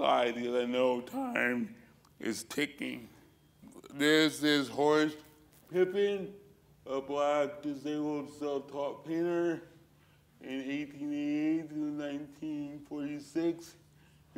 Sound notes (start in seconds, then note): none